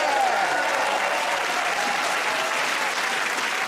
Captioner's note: cheers and applause